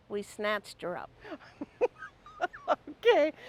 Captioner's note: chuckling